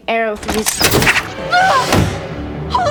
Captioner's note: arrow whooshing; yelps